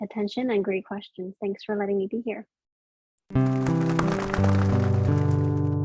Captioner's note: sound of wings flapping